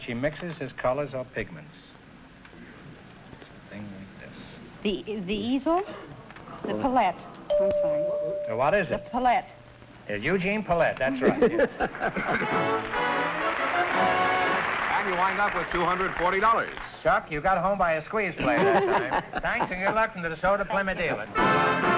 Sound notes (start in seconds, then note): 11.2 laughter; 12.1 applause